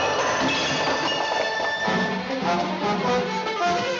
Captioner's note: bottles Clattering